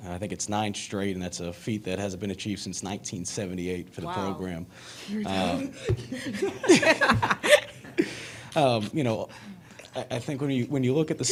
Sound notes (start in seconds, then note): 5.3 Aliyah and Zia laugh